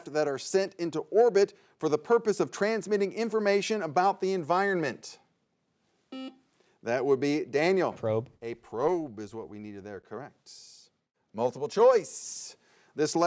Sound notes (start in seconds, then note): 6.5 buzzer beeps